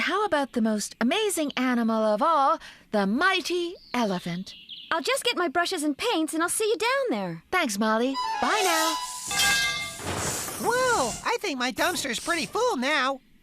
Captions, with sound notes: AND HOW ABOUT THE MOST AMAZING ANIMAL OF ALL... THE MIGHTY ELEPHANT! I'LL JUST GET MY BRUSHES AND PAINTS AND I'LL SEE YOU DOWN THERE. THANKS, MOLLY. BYE NOW! ( Clanging ) WHOA! I THINK MY DUMPSTER'S PRETTY FULL NOW.